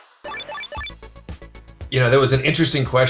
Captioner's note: retro beeping